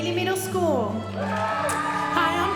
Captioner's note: audience cheering